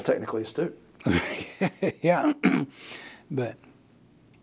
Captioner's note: laugh